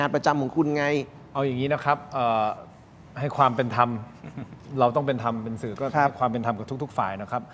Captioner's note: clears throat